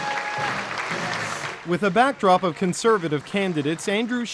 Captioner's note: applause